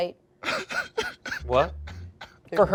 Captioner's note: chuckles